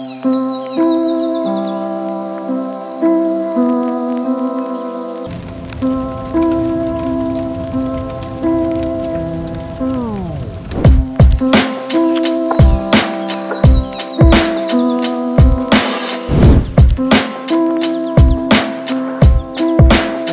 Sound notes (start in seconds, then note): 0.3 soothing music; 5.7 fire crackling; 11.0 soothing music